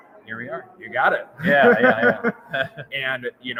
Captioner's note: laughs